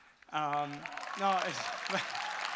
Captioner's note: audience applause; laughing; audience cheering